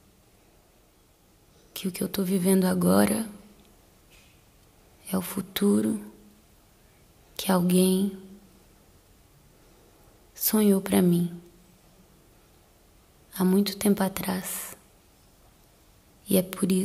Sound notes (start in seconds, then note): 4.3 speaking in Portuguese